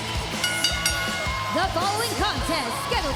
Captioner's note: bell rings